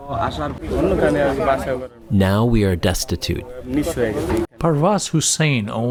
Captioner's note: through translator